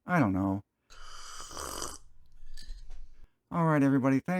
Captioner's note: slurping sound